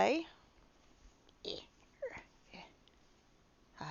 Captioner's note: frustrated noises